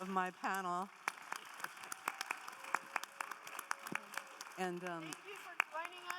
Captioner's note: audience applauding